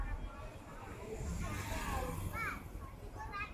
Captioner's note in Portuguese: Criança falando